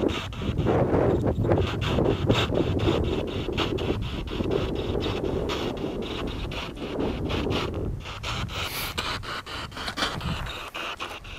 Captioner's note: radio noise from the spirit box